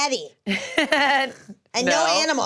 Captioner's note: laughs